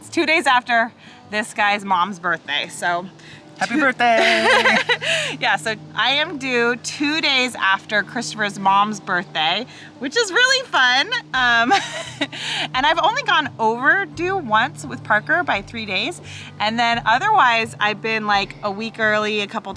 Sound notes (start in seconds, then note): 3.6 laughs; 11.6 chuckles